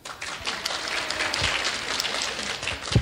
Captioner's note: clapping